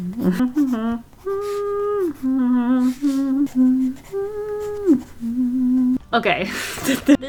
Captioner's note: humming